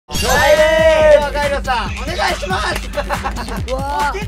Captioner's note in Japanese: 声が裏返っている